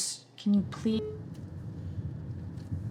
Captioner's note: call ends